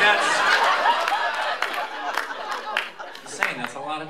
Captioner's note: laughter